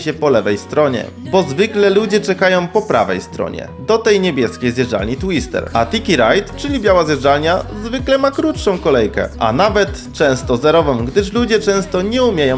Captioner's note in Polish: odgłos wody